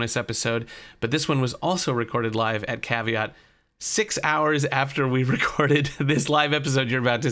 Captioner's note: laughs